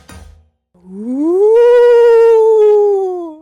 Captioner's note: ghost noises